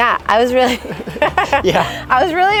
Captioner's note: both laugh